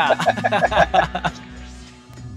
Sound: laughs

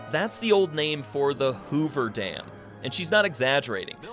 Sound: voiceover

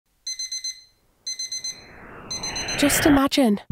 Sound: digital alarm sounds

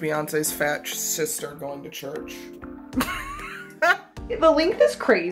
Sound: laughs

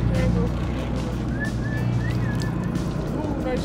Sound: man whistling

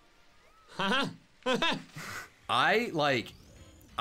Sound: laughs

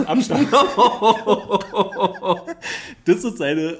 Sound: laughs

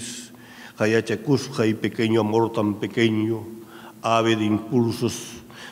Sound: speaking in a foreign language

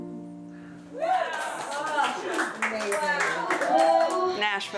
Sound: cheers and applause

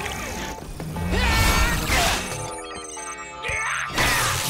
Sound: grunting

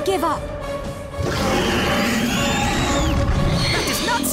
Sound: growling

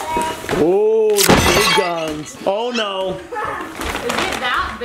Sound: glass shatters

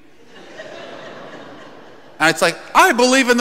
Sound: congregation laughing

